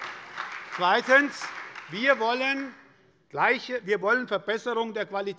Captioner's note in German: Beifall bei der SPD